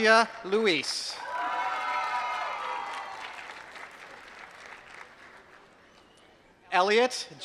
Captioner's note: applause